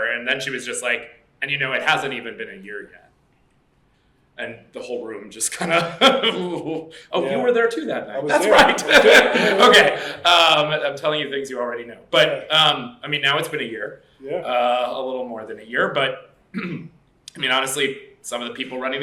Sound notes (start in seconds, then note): 5.5 laughs; 8.3 laughter